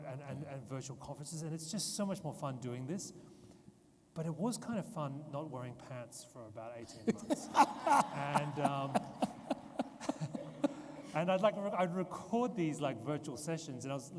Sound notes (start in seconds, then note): 6.9 interviewer laughs; 7.0 audience laughs